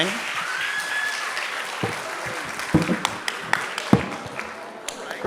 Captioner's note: audience clapping and cheering